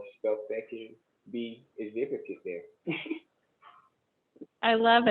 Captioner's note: laughs